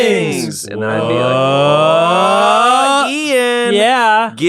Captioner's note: scary game sounds